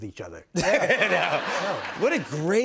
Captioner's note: laughter